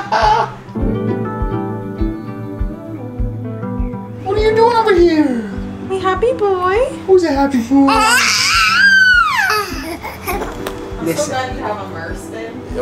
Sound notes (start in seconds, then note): 0.0 laughing; 1.4 upbeat music; 7.8 squealing